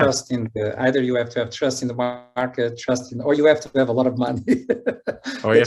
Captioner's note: laughs